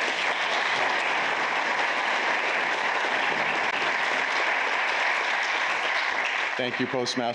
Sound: applause

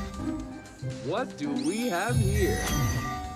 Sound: magic sound

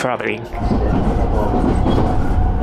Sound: train wheels roll

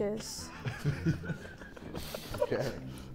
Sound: Sidemen laughing

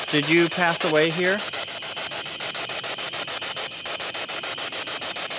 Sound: static pulsing

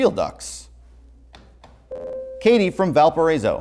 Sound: buzzer

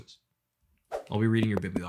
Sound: swipe

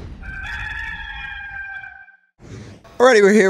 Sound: rooster crowing

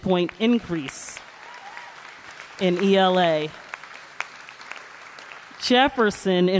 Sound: applause

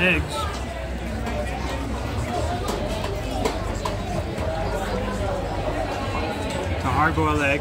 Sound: background chatter

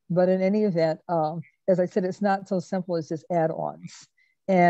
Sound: none

